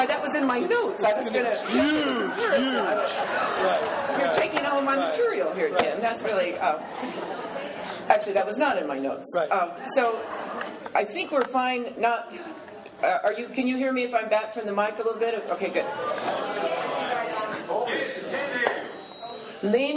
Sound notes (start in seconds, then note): 3.5 laughing; 10.1 laughing; 15.0 audience chatter